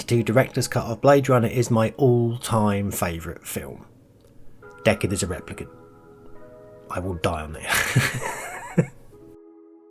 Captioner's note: laughs